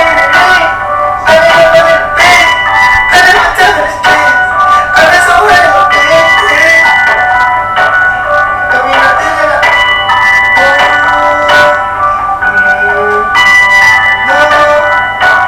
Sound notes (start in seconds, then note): 10.3 phone ringing; 13.1 upbeat music